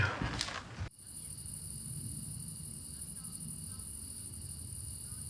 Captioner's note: crickets chirping